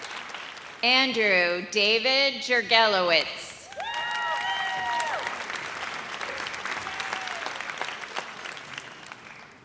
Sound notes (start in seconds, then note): 3.7 audience cheers